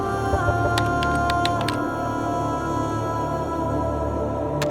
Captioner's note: keyboard clacking